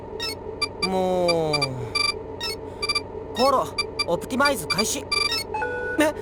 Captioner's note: sigh